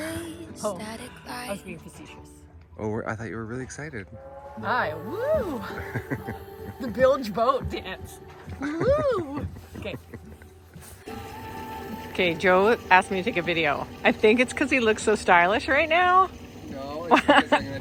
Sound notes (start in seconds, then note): 5.1 laughs; 8.4 laughs